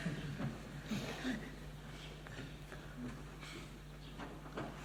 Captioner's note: laughter